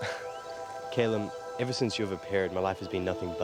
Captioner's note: chuckles